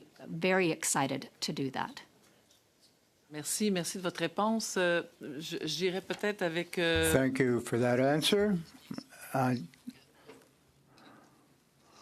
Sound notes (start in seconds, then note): 7.5 speaking French